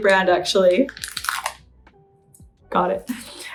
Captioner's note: wrapper crinkles